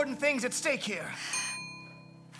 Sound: elevator bell

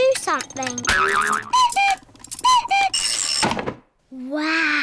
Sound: clock cuckoos

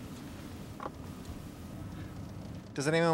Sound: none

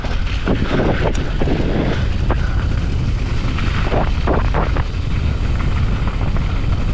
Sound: tires swishing; wind whooshing

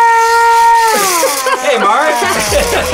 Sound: laughs; all laughing

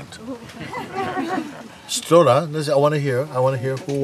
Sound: laughter

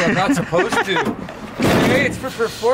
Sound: laughing

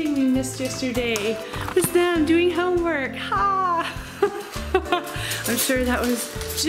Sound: laughs

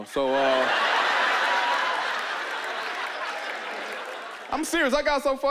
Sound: laughter

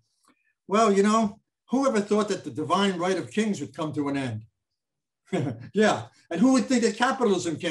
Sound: chuckles

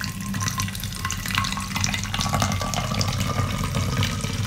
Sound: soda splashing

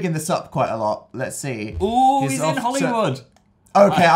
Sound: excited

